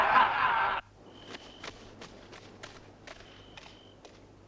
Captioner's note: crickets chirping